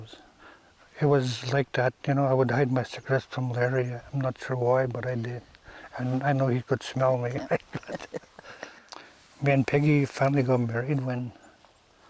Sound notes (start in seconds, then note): 7.1 laughs